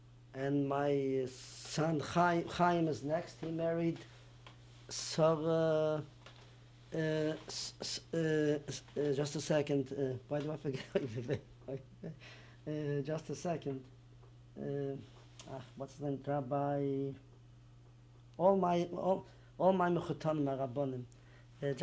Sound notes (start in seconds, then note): 11.2 laughs; 19.1 non-english